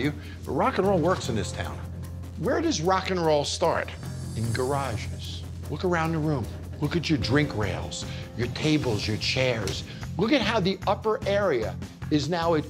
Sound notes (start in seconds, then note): none